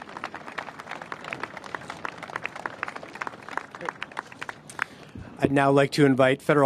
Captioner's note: applause